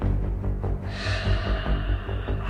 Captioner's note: sighs deeply